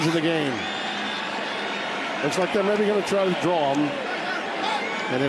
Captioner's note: whistle blowing